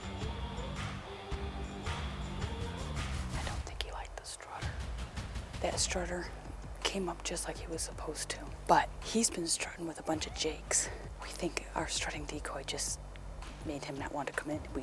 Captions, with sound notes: (whispering) I don't think he liked the strutter. That strutter came up just like he was supposed to. But he's been strutting with a bunch of jakes. We think our strutting decoy just made him not want to commit.